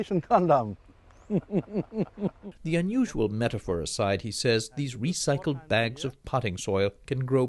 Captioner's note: laughter